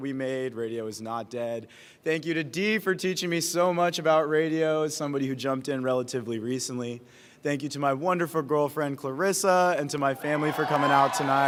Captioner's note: applause